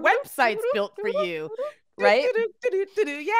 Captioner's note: imitating horse trotting